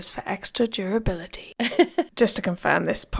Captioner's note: laughing